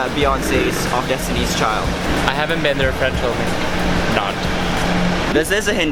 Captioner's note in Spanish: irónico